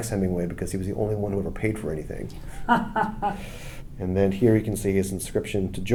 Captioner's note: laughs